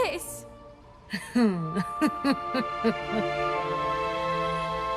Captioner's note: laughter